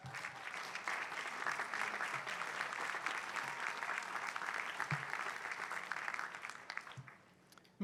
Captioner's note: applause